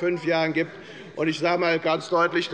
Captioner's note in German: Zuruf